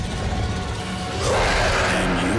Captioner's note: roaring